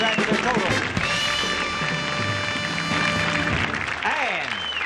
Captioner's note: audience cheers